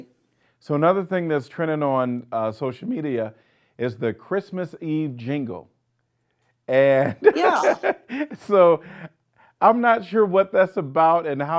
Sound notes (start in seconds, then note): 7.2 laughing